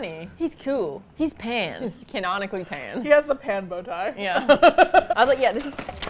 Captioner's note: laughs; clatters